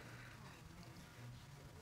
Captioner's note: sniffles